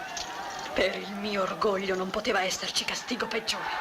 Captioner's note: yelling